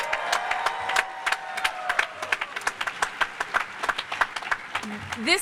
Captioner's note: cheers and applause